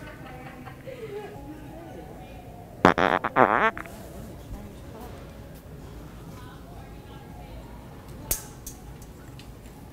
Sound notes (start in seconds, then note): 0.2 laughing; 2.8 farting noise